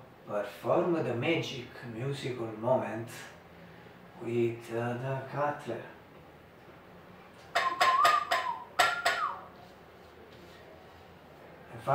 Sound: whistle

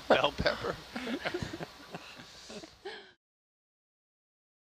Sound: laughing

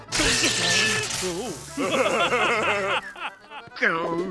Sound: laughing

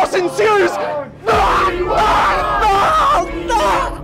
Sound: chants; screams

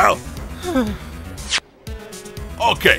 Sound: sigh

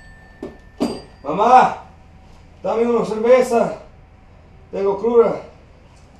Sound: person speaking in foreign language

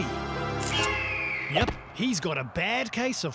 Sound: eagle screeching

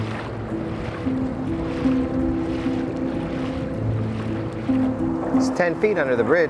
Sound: water splashing; somber music

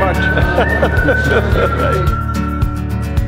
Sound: laughs; upbeat music

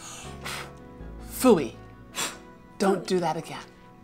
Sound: blows

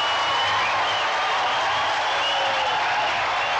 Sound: cheering

